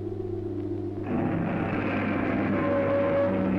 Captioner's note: roaring